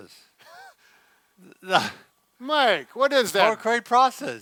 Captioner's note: laughs